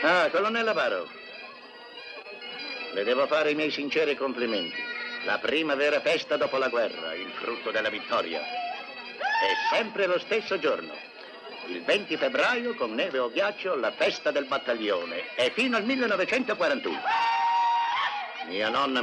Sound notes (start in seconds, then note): 9.2 whooping; 16.9 man hollers